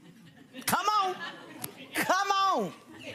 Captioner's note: audience chuckles